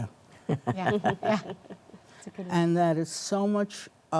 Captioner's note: panelists chuckling